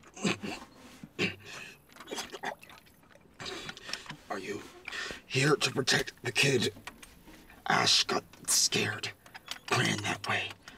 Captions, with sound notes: (gulping) Are you here to protect the kid? Ash got scared. Ran that way.